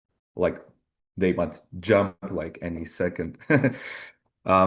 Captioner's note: chuckles